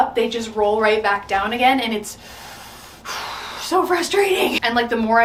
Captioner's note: inhales loudly